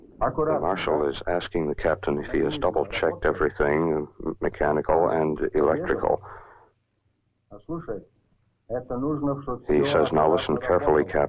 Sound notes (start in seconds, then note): 7.1 speaking in Russian